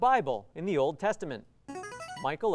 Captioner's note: ringing